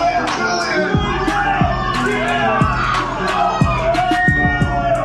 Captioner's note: crowd violently heckles